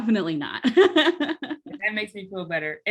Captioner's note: laughs